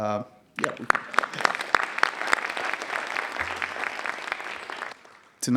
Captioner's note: audience applauding